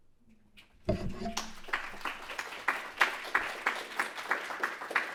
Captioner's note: audience clapping